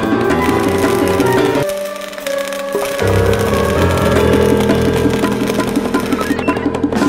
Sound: welding Sounds

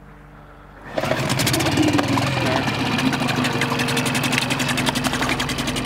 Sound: boat engine sputtering

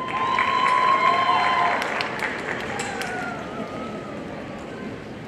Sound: audience cheering and applauding

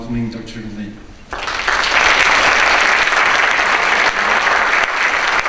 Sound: audience applause

